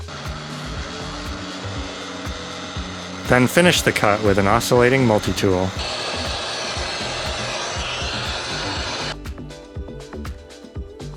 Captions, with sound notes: (Sound of tool cutting plastic.) Then finished the cut with an oscillating multi-tool. (Sound of vacuum cleaner.)